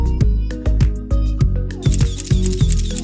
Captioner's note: fast shutter clicks